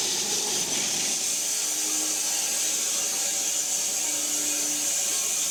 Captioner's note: log saw whirring continues